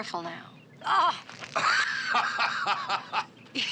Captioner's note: laughs